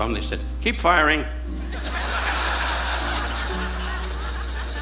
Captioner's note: audience laughing